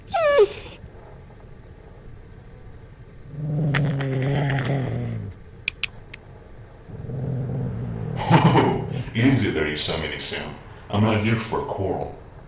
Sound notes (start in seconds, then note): 0.0 dog whimper; 3.2 dog growls